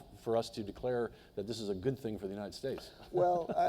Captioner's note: laughs